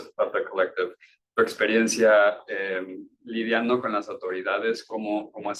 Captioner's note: speaking Spanish